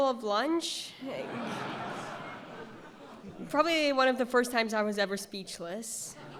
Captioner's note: laughter; laughter